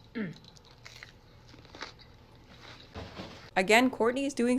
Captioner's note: chewing